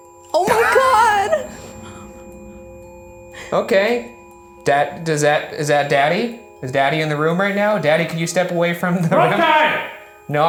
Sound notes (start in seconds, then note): 0.4 REM-pod beeping; 2.5 tense music